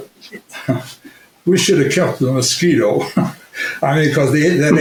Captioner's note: chuckles